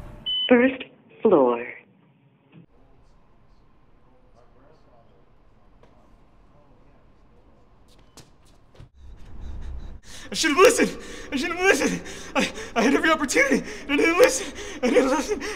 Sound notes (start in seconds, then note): 0.1 elevator Voice; 10.0 crying